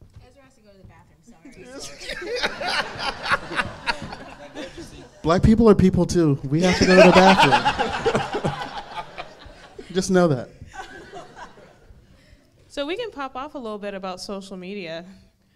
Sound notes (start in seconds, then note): 1.6 audience laughing